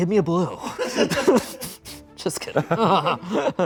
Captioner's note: laughs